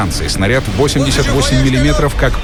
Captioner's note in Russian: Говорят по-немецки